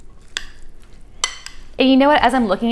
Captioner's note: spoon clinking